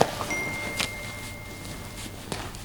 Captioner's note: phone chimes